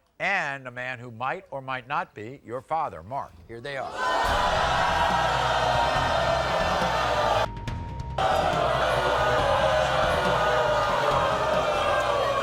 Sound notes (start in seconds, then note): 3.9 aggressive percussive music; 4.4 crowd booing